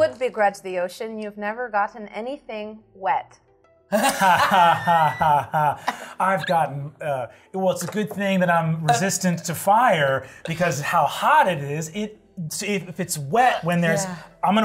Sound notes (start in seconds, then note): 3.9 participants laughing